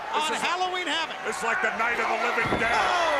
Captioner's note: crowd cheering